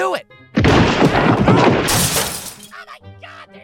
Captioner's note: thudding, screams, glass shattering